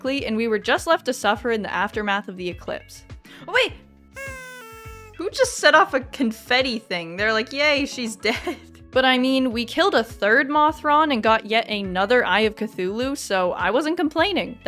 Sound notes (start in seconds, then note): 4.0 confetti